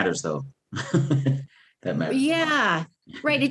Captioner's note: laughs